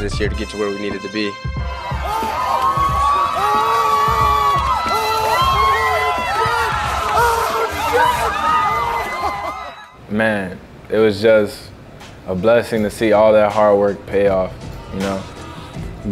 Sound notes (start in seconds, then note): 1.7 all screaming